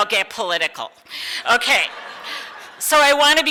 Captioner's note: audience laughs